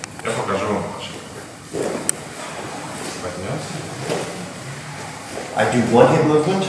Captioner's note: speaking in a foreign language